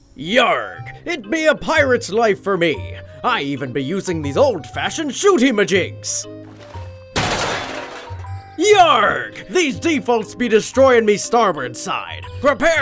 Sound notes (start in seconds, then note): 6.5 metals clanking